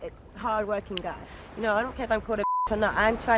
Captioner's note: beep